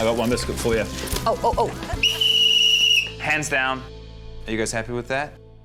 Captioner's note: blows whistle